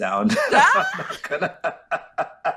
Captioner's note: laughter